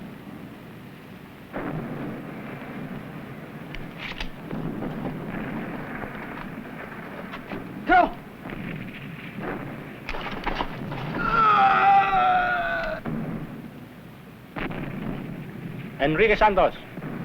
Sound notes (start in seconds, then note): 11.0 groans